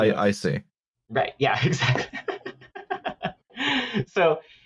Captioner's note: laughs